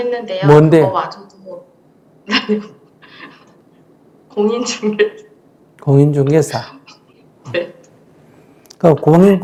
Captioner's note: 웃음